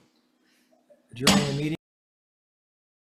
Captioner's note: gavel strikes